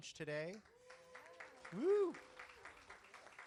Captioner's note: audience clapping